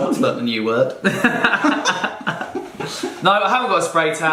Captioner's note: laughing